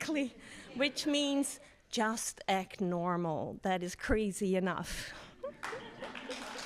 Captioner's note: laughs; audience laughs; laughs; audience applauds